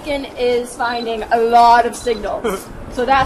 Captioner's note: beeping